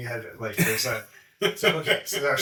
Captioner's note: chuckling